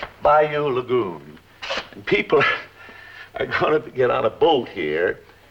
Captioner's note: laughs